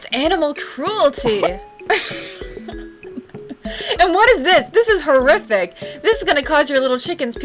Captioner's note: laughing